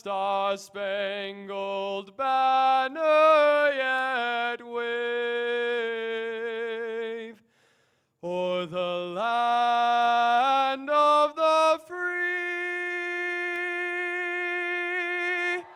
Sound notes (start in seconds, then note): 12.8 applause